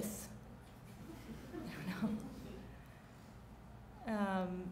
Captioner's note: chuckling